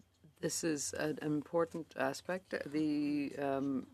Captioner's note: speaking in French